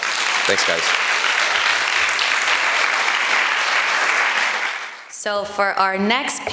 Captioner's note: applause